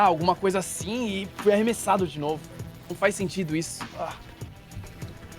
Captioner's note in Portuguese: argh